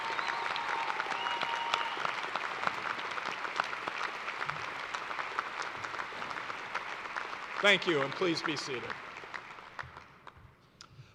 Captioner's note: cheers and applause